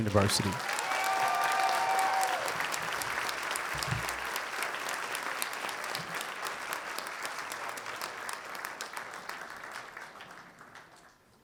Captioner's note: applause